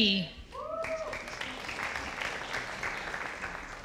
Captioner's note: audience applauding